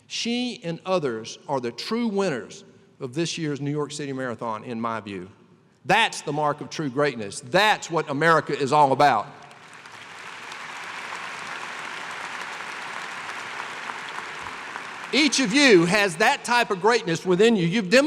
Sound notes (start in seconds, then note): 9.5 applause